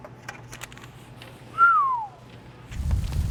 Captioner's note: whistle